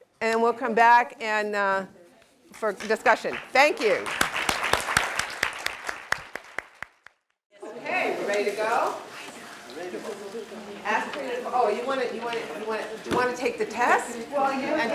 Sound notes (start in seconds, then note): 7.6 applause